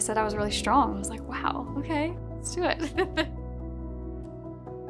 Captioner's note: chuckles; calm bright music